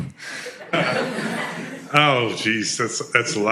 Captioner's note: laughter